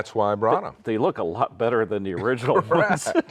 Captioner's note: laughs